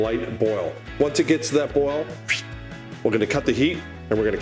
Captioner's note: swoops